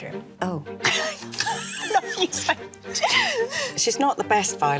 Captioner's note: laughing